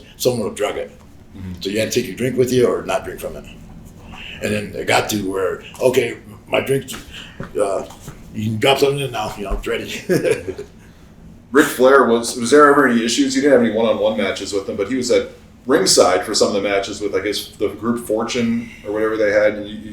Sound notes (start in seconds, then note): 9.8 Sabu chuckles